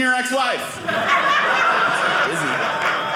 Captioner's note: audience laughing